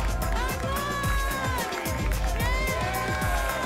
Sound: applause and cheering

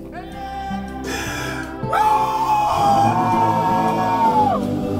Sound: Tony wallowing in pain

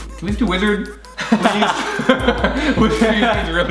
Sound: laughs

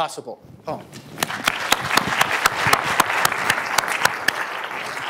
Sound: applause

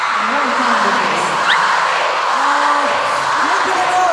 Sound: CARATs start chanting Hoshi's name

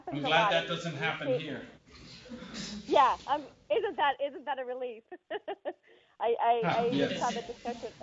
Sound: laughter

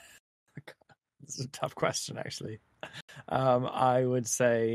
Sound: laughs

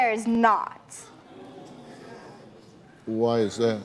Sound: audience gasps

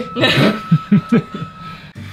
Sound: awkward laughter

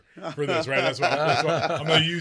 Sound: both laughing

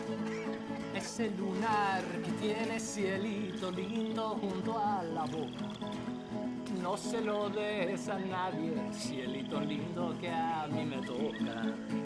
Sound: in Spanish

